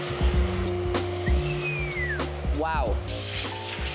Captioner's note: whistles